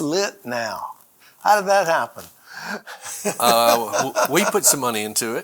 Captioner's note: laughs